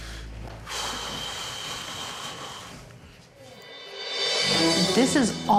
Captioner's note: Gordon sighing loudly